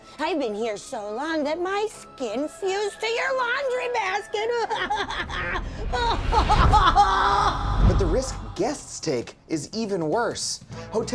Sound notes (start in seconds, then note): 4.5 laughing